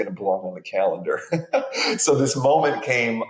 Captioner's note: chuckles